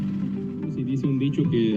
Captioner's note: Spanish